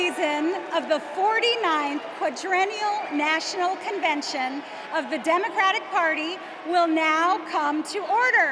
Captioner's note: applause